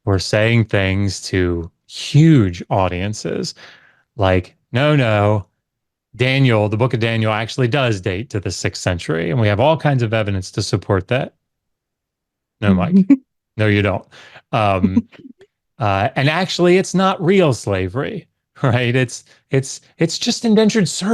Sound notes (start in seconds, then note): 14.6 chuckles